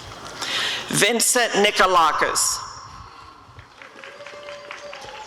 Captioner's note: applause and cheering